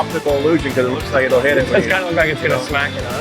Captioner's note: chuckles